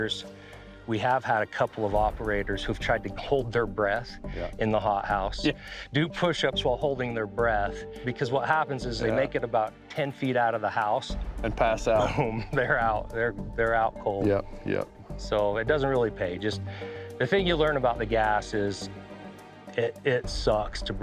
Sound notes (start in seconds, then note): 5.4 giggles; 11.9 laughs